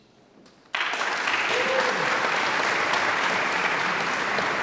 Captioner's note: audience applauds